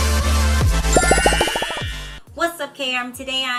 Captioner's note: bubbles popping